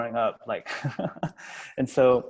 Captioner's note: laughs